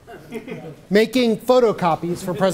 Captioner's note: audience chuckles